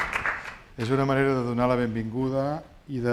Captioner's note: speaking spanish